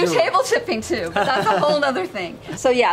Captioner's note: they laugh